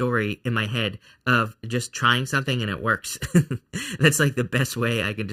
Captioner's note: laughs